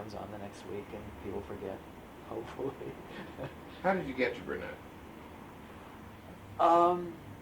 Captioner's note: laughs